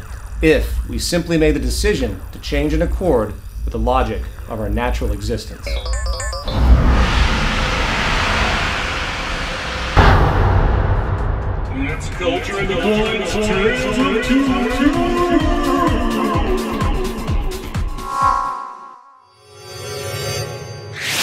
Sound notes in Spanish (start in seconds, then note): 10.9 Poof!; 11.6 Voz fantasmal